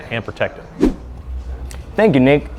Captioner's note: camera whooshes